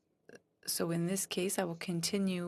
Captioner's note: speaking French